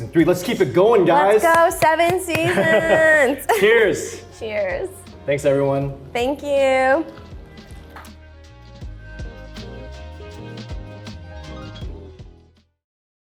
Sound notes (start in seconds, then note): 1.4 Arden claps; 2.4 laughs